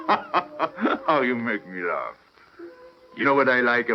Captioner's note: laughing